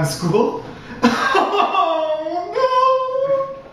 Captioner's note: bursts into tears; crying